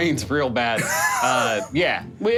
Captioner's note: laughing